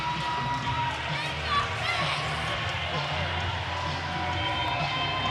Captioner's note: audience cheering continues